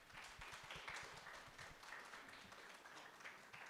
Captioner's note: group applauding